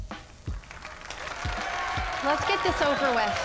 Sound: applause

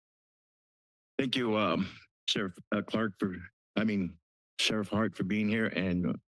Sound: stutters

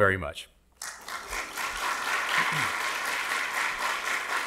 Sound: audience clapping

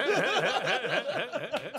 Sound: laughter

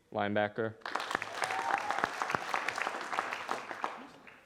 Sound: audience applauding

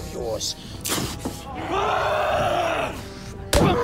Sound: screaming; crowd exclaiming

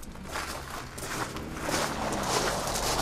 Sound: car drives away

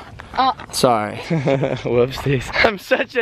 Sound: chuckles

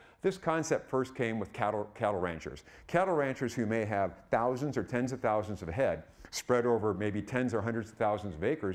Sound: none

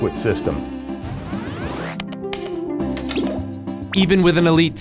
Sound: clicking

